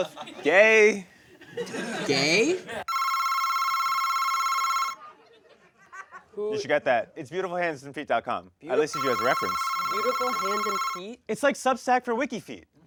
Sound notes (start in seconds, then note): 2.8 phone rings; 8.9 phone rings